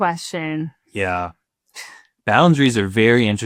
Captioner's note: chuckling